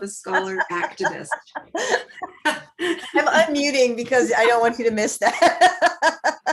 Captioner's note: laughing